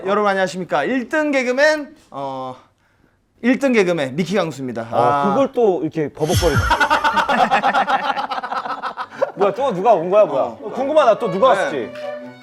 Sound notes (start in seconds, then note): 6.3 laughing